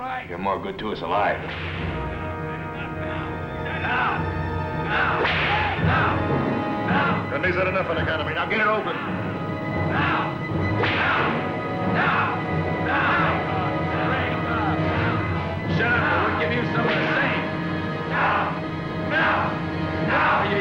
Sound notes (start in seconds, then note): 5.1 whip cracks; 10.7 whip cracks